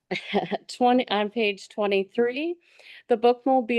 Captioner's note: laughing